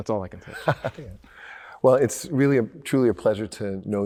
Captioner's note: laughs